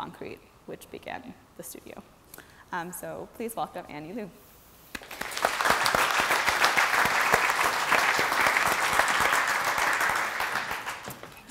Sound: applause

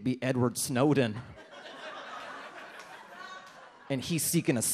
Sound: audience laughs

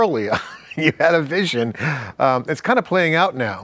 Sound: laughing

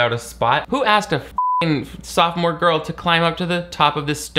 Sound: beep

